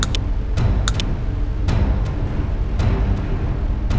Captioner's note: thunder storm